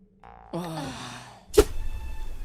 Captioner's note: sighing